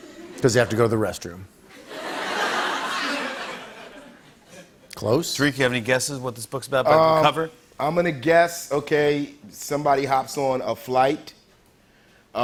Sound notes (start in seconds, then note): 1.7 laughter